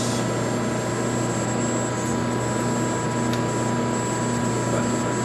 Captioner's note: machine whirring